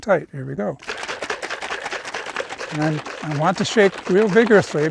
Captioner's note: milk sloshing